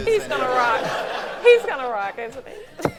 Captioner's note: laughing